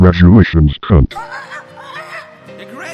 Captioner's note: squawking